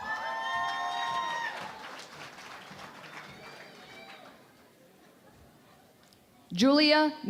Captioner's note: cheering and Applause